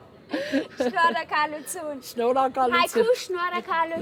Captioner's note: in Armenian